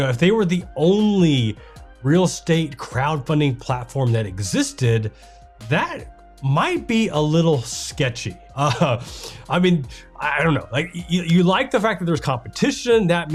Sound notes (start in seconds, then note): 8.6 laughs